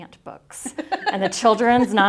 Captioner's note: laughs